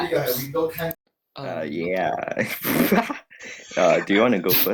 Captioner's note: laughs